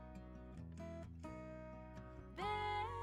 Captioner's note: none